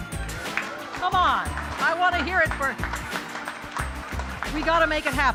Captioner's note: applause